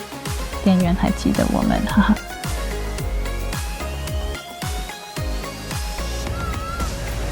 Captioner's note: haha